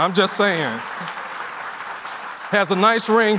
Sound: laughter and applause

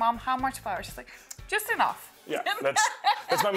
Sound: laughing

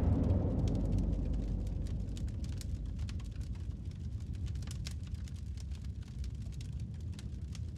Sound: fire crackling

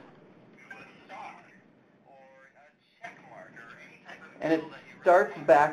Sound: pen playing audio of speaking

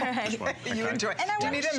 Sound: laughter

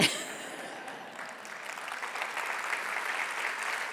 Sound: applause

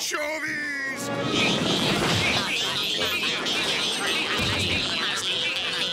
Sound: repeating "meep" over and over

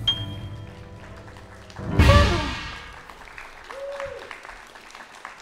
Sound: audience clapping

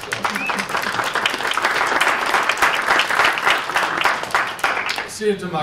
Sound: applause

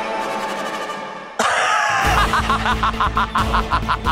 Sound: laughs

